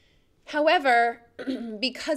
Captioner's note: clears throat